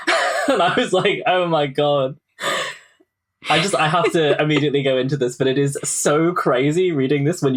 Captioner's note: laughing